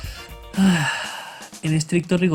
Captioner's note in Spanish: suspiro